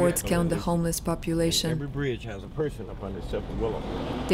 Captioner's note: on phone